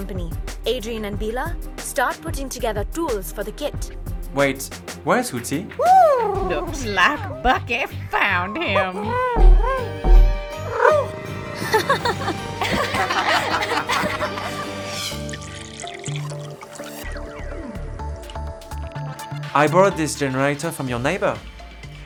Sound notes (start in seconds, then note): 11.6 laughing; 14.9 pouring